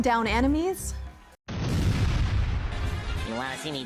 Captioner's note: explosion booming